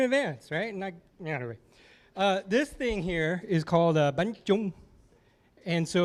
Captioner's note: non-english speech